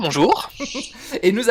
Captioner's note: laught